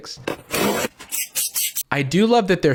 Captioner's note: box cutting, spraying